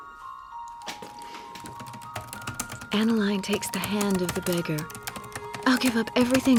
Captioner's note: typing resumes